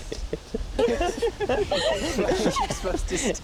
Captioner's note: laughter